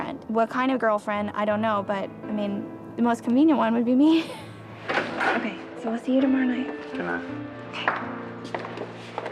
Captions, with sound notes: What kind of girlfriend? I don't know. But I mean the most convenient one would be me. (laughs) Okay, so we'll see you tomorrow night. - Goodnight. - Okay.